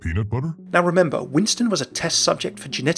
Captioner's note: voiceover